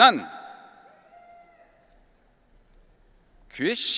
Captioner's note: audience cheering